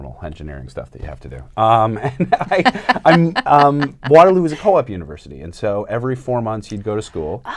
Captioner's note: laughter